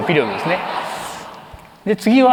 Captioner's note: laughter